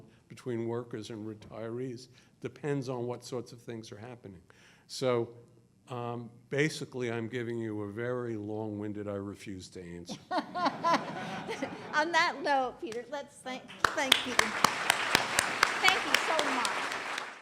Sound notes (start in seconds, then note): 10.1 laughing; 15.7 applause